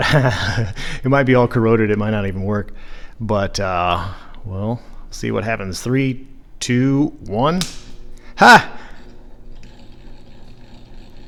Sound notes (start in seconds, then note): 0.0 laughs; 7.5 switch clicks; 8.3 excitedly